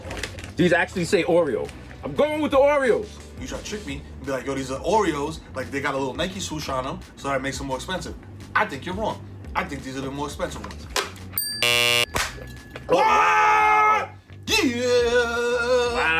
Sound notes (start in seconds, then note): 11.4 bell dings; 11.6 buzzer buzzes; 12.1 Mero claps and yells